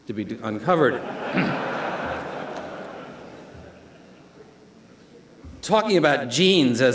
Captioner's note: laughter